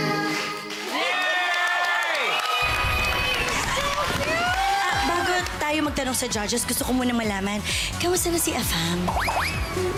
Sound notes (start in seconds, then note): 0.8 cheering, applauding